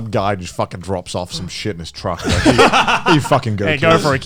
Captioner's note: laughs